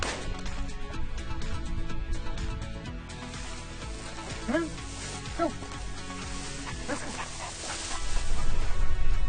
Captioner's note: gunshots